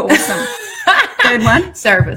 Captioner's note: laughs